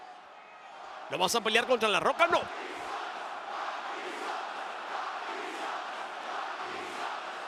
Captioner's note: applause